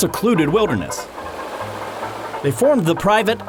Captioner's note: river flows